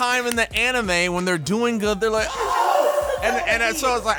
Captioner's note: moaning